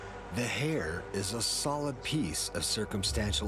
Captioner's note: voiceover